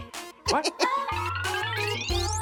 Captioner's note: laughs